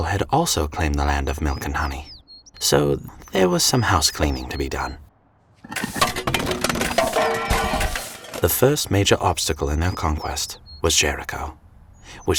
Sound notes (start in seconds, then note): 5.6 objects clattering